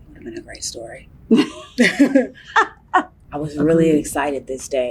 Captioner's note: laugh